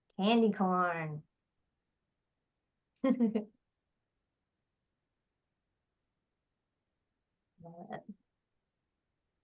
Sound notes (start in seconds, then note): 3.0 chuckling